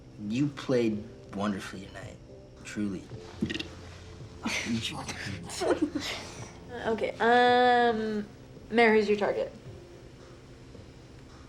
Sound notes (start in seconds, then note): 3.7 belching; 5.1 friends laugh